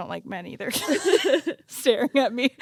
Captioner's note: both laugh